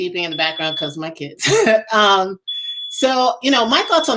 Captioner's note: chuckles